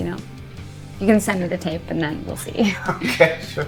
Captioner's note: chuckles